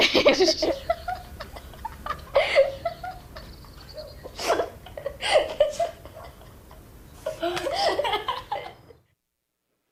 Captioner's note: children laughing